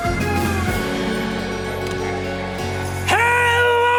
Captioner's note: demonic laughter resounds